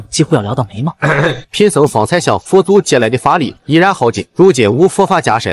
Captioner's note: chuckles